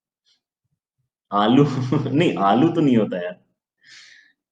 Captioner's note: laughing